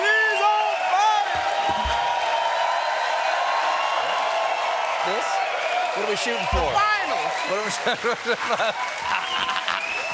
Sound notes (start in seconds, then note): 3.0 cheers and applause